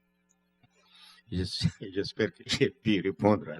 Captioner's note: speaking french